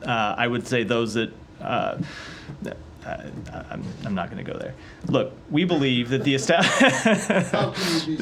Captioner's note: laughter